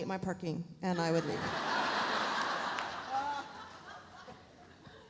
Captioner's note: audience laughs